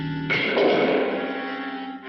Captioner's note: axe bangs the floor